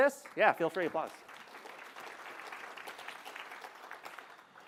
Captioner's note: applause